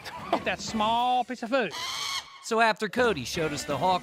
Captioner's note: hawk screeching